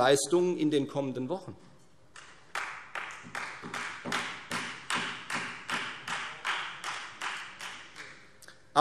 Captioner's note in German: Beifall Freie Demokraten